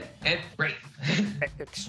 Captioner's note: laughs